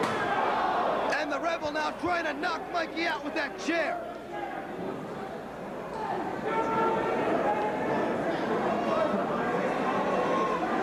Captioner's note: crowd chattering